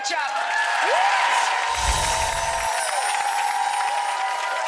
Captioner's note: audience applauding